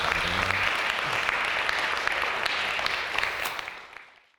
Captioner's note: audience clapping